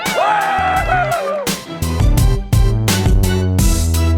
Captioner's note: intense music; cheering